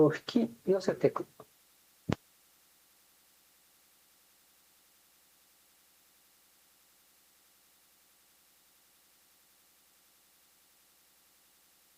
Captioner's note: contains silence due to tape problem